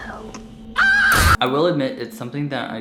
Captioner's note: woman screams